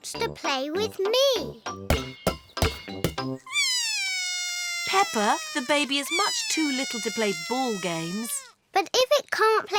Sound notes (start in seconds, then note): 3.5 bawls